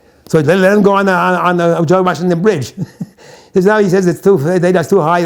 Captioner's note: chuckles